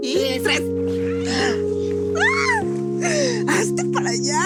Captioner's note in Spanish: Gritos y risas